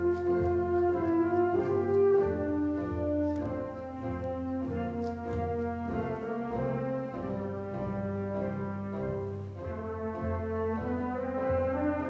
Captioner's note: applause